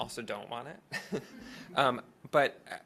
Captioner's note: everyone laughing